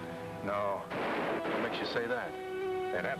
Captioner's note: gunshots banging